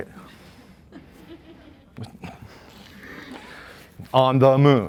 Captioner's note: chuckling